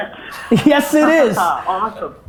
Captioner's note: laughter